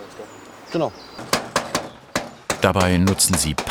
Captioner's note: hammering